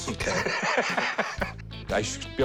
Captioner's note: laughs